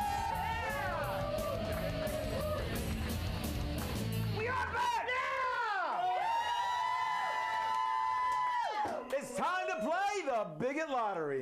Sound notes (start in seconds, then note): 3.2 upbeat rock music; 8.2 audience cheering